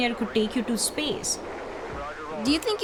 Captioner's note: radio chattering